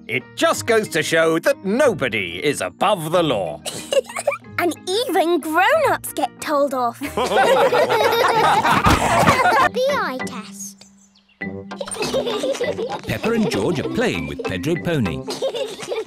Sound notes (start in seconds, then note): 7.0 all laughing; 11.8 all giggle